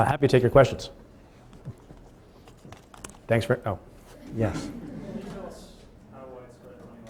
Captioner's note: laughing